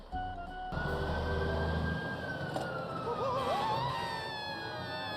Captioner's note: gentle music; siren blares; Cuddles screams